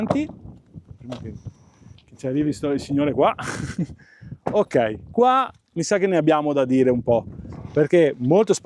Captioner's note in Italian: risate